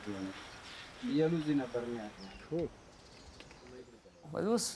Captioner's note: man speaking in foreign language